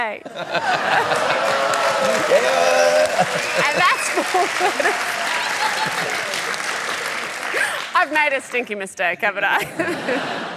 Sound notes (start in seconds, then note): 0.2 laughter and applause